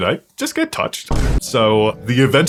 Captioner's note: boom